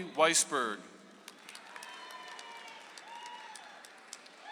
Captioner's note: audience applauds